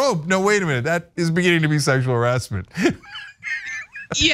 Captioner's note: laugh